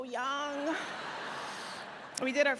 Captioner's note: audience laughs